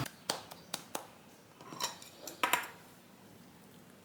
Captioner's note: clap 👏